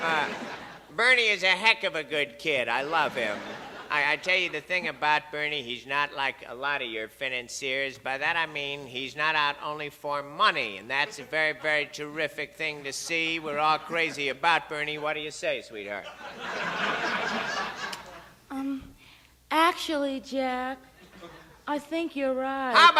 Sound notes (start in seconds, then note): 16.0 audience laughs